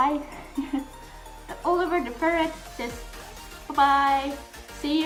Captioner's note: laugh